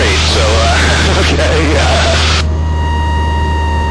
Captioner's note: laughing